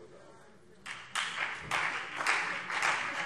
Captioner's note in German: Beifall CDU und BÜNDNIS 90/DIE GRÜNEN